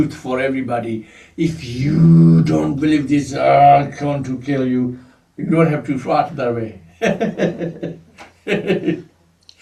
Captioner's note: laughs